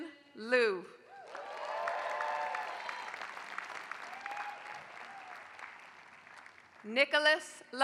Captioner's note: applause